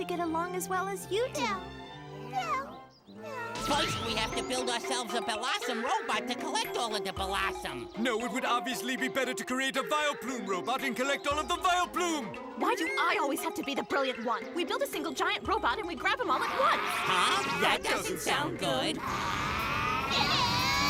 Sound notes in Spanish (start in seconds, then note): 16.3 gruñidos; 19.1 enojado